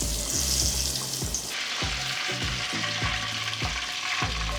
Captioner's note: fish sticks frying